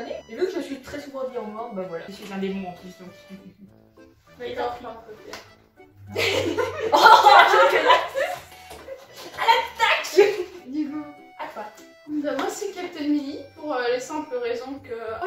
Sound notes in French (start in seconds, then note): 3.2 petit rire; 6.1 Rire